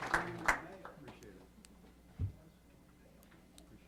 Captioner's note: applause